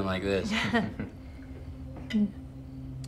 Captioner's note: Claire laughs